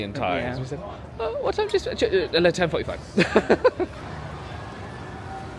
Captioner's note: laughs